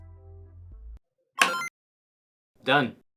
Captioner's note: click, chime